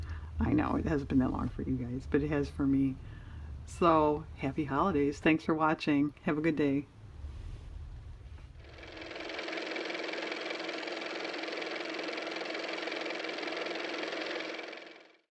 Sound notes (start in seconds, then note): 6.5 car motor